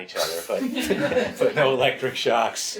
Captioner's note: laughs